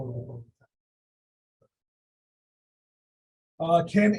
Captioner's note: audio drop